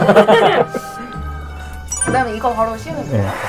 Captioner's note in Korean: 웃음